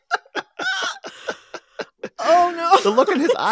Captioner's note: laughter